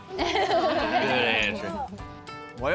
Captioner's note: everybody laughs